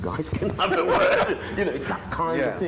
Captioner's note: laughter